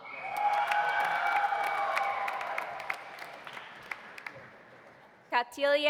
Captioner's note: audience cheering; audience applauding